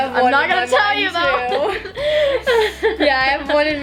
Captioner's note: laughs